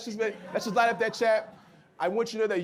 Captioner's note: audience laughs